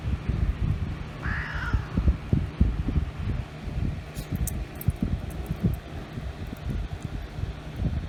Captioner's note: Caprice meows and growls